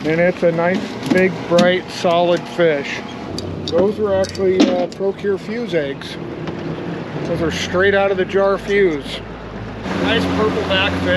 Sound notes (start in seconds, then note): 0.0 fish thrashing; 8.4 boat engine running